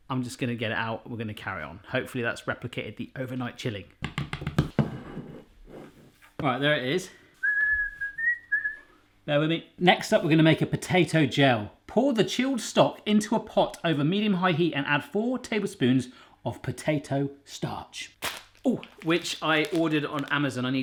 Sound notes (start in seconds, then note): 4.0 tapping; 7.4 whistles